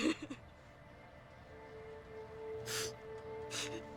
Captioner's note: sobbing